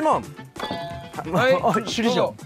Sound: ding dong

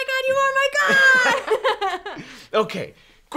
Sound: both laugh

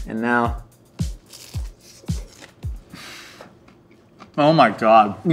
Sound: popper crunches

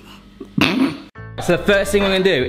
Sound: man laughs

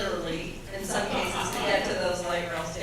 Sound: audience laughs

